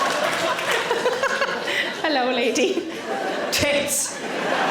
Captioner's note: laughs; audience laughing